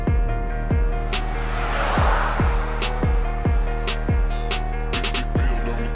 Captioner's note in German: schnelles Auto-Dröhnen